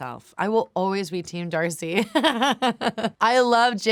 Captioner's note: laughs